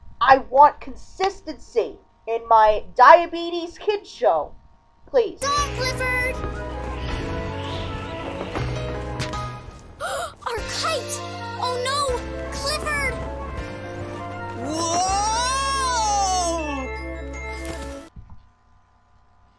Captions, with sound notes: I want CONSISTENCY, in my DIABETES KIDS' SHOW, please. - ...on, Clifford! (wind whistling, snap) - (gasps) Our kite! Oh no! Clifford! - Whoooooooa! (rustling)